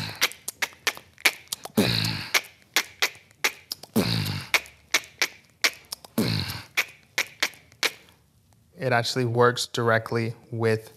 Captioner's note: beatboxing